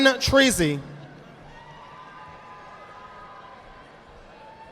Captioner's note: audience applauding